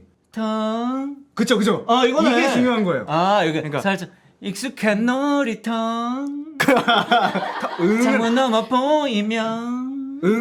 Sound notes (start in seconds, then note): 6.6 laughing